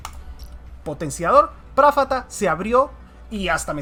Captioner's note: some noises in spanish